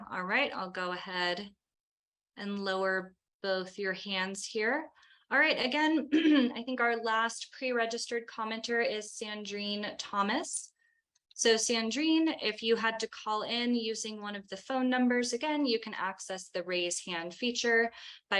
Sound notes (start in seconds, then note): 6.1 clears throat